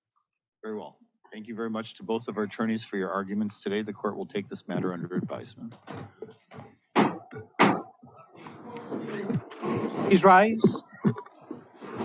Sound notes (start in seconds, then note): 6.9 gavel bangs twice